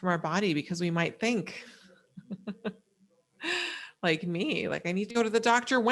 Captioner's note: laughs